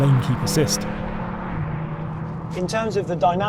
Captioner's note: vehicle revs